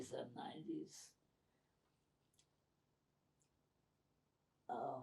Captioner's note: pauses 6 seconds